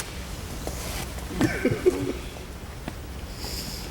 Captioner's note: sobbing